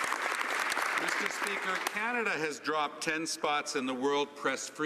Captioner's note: some Applause